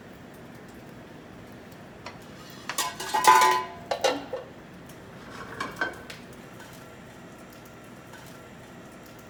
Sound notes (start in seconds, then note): 2.4 pans and plates clattering; 5.2 pan scrapes against the burner